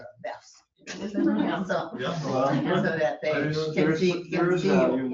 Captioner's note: overlapping chatter